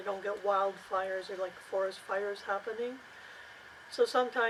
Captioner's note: forest fires